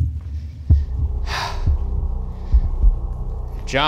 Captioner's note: sighing